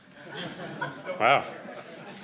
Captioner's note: crowd laughing